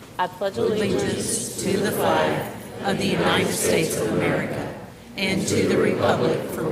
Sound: group recites the Pledge of Allegiance

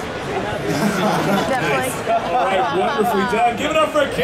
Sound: audience chattering

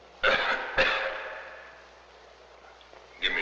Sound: coughing

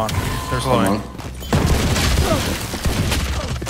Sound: gun bangs

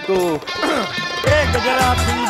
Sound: cough

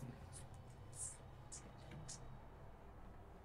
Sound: subtle hihat beatbox

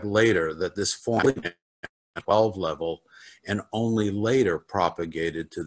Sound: crackling drowns out

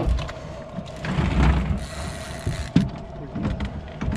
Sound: reel cranking

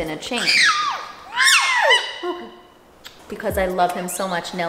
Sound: bird squawking

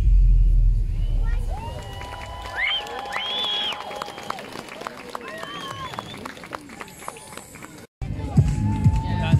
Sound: applause

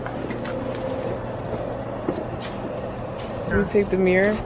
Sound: footsteps

